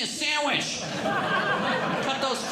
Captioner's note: audience Laughing